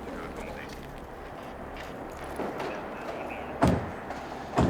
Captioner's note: radio noise